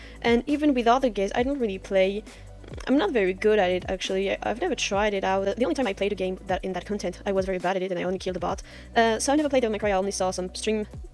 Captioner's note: simp grumbling noises